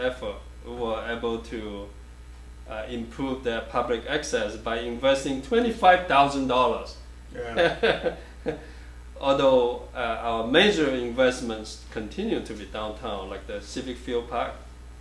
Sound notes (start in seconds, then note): 7.3 laughs